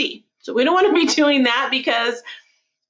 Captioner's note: laughing